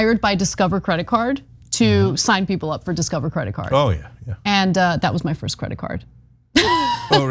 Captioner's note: laugh